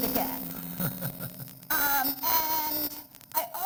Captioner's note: laughs